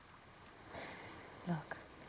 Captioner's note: sighs